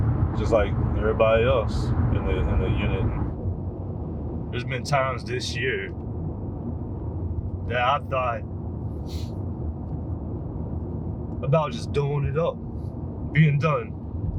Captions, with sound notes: just like everybody else in the unit. There's been times this year that I've thought (sniffing) about just doing it up, being done.